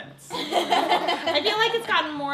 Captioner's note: laughing